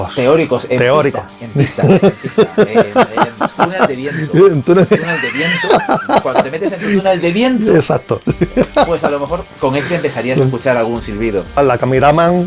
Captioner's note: laughs